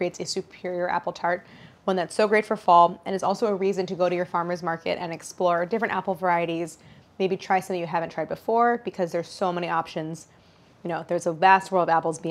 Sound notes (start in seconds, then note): none